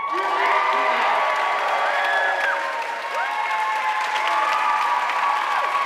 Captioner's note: audience cheering and applauding